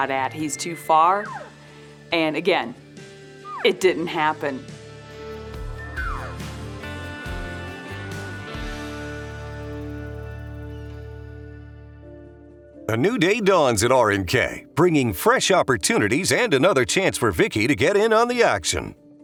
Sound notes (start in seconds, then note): 5.2 upbeat music; 5.9 elk calling; 8.9 upbeat music fading